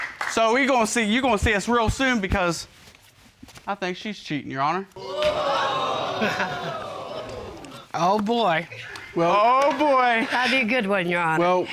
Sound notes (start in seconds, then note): 5.0 audience gasping; 5.1 chuckles